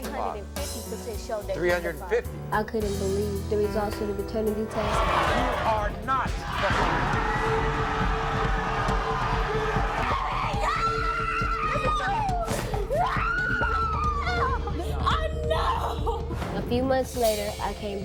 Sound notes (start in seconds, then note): 7.4 yelling; 10.2 sobbing